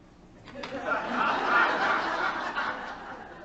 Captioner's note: light Laughter